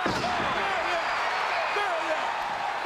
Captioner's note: crowd cheers